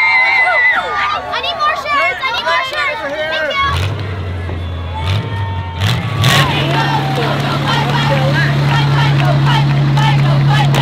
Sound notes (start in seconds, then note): 0.0 excited screams; 3.6 car engine revs and rumbles